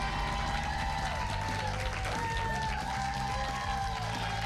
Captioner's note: cheers and applause